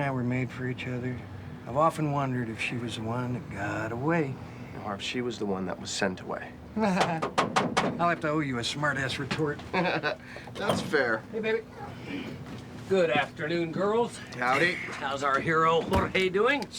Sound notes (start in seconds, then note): 7.0 knocking on door; 9.6 laughs